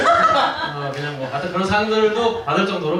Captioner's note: laughs